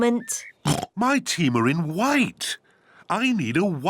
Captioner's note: oinks